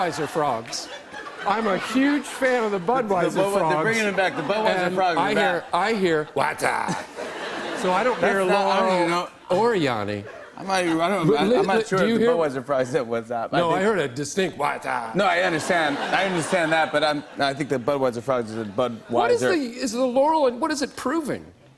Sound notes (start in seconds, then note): 0.0 laughter